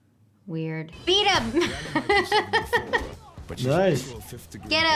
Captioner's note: laughs